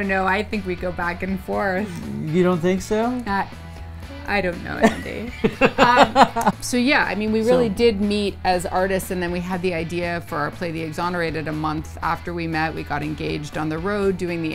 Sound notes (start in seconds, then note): 4.8 chuckles